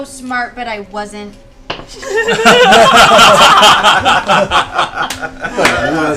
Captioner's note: laughter